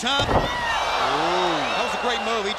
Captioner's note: crowd cheering